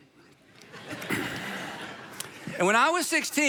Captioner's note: audience laughing